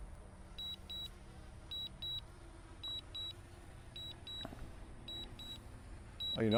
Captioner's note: beeping